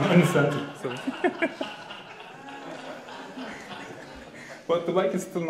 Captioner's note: audience laughing